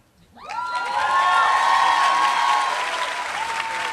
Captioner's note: applause